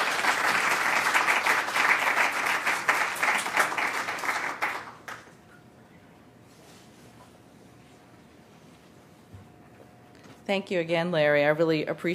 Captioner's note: applause